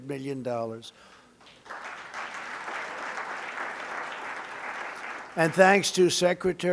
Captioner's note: applause